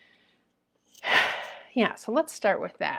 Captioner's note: exhaling